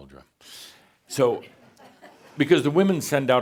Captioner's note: some chuckles